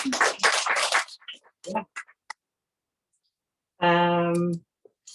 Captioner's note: applause